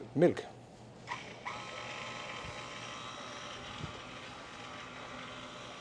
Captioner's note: whirring